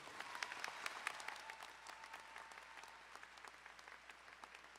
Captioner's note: crowd applauding